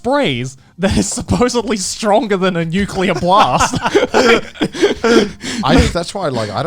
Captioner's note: laughs